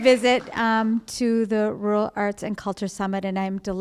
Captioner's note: applause